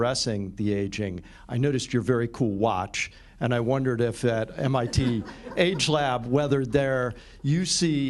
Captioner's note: laughter